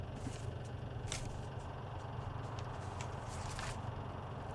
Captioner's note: pages rustling